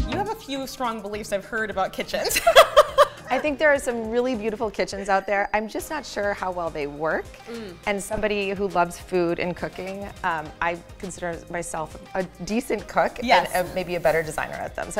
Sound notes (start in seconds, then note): 2.3 laughs